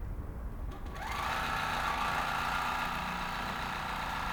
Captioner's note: machine whirring